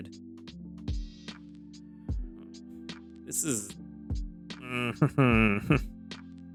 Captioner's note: chuckles